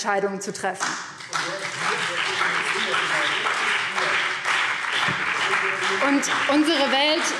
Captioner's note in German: Beifall